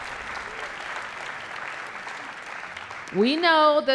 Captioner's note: applause